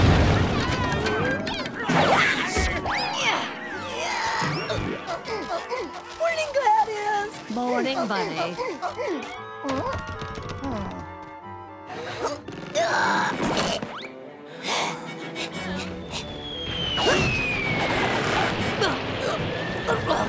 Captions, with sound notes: [grunting] Morning, Gladys. Morning, Bunny. [grunting] [grunting]